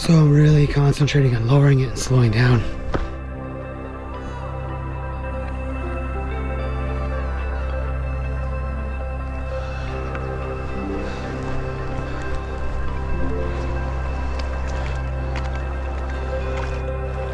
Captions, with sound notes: so I'm really concentrating on lowering it and slowing down. (footsteps crunching) (water bubbling)